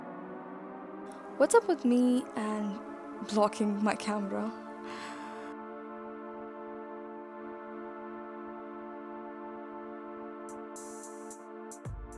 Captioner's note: sighs